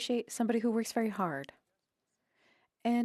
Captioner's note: speaking French